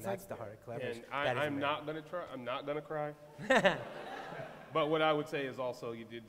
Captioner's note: laughter